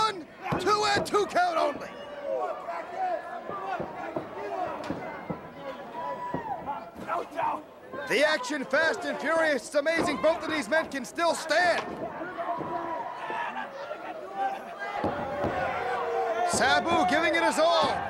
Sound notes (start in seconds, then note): 2.2 crowd chatter; 13.1 crowd chatter